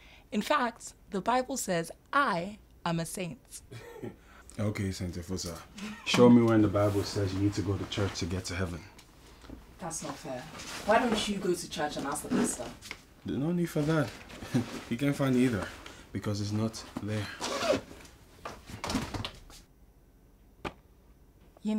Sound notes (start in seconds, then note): 5.7 Nosa chuckles